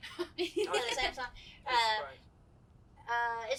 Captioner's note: laughs